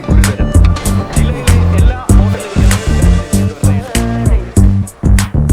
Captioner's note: TV News continues